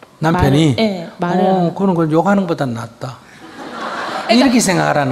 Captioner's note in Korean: 청중 웃음